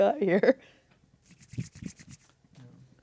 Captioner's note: rubbing hands together